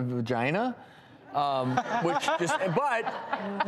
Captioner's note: audience laughs